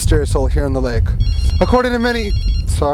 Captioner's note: phone ringing